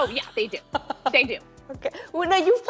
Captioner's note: laughing